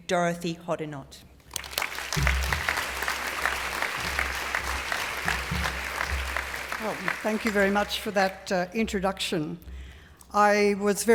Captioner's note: applause